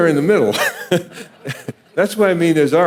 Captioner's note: laughing